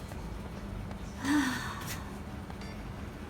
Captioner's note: take a deep breath